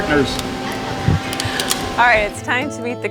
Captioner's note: camera shutter clicks